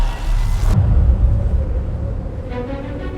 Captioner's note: wind blowing; exciting music